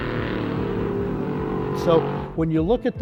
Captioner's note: motor humming